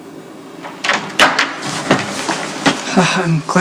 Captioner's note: door opens